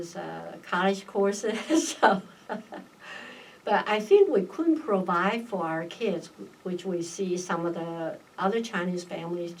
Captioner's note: laughs